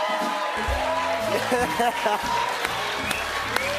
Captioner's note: cheers and applause